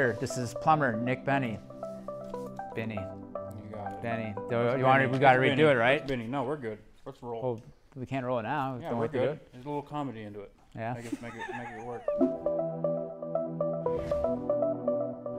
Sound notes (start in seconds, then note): 11.0 chuckles; 11.5 upbeat music